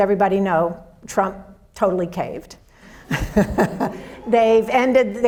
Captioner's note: audience laughs